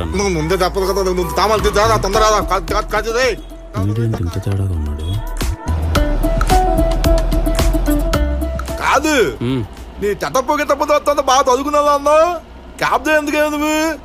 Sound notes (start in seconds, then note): 4.9 revving